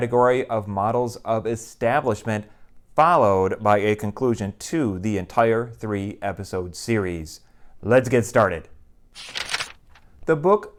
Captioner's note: page turning